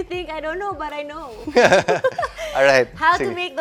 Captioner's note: laughs